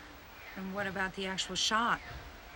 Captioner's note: none